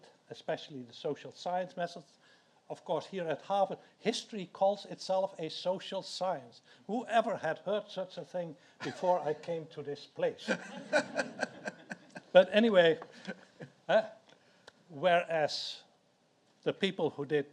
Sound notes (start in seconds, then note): 10.5 audience laughs